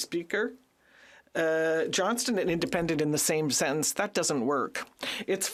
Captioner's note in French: voix de l'interprète